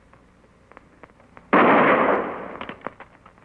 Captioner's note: gunshot fires